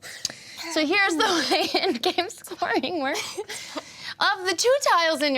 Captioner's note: laughs